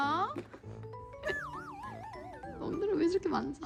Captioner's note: scratching away